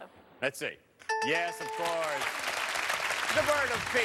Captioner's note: bell rings